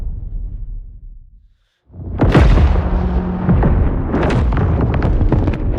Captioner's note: thunder